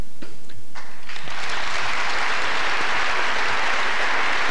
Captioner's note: applause